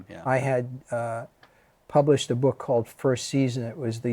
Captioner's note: none